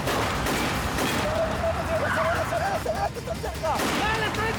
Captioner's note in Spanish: Disparos